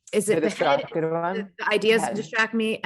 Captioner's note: faintly speaking